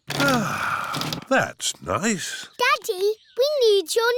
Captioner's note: sighs